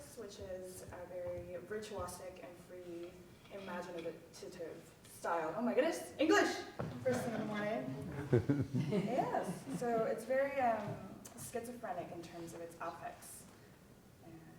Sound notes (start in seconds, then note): 7.9 audience laughing